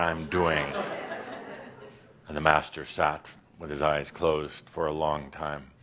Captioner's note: some chuckles